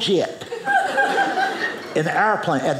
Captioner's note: audience laughing